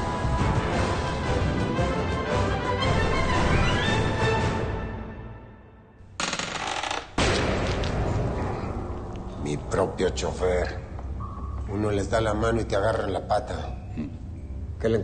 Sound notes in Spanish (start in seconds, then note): 7.2 Estrépito